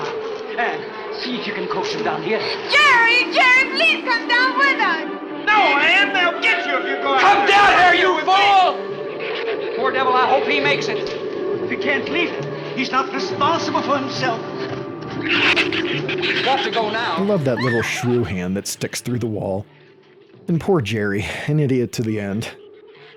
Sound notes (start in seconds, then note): 15.2 shrew screeching